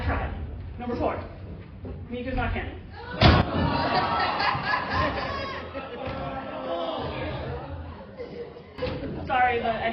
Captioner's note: everyone boos